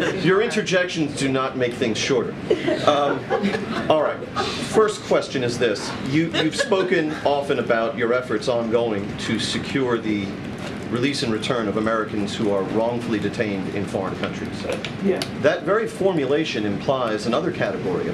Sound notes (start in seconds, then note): 2.4 laughter; 4.3 exhales; 5.9 laughter